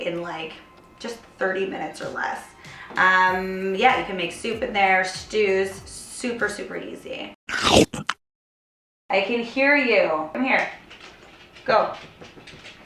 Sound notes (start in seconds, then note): 7.5 munching; 12.6 paws clicking on floor